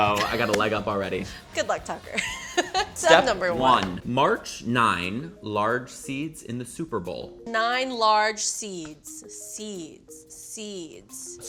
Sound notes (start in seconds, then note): 2.2 laughs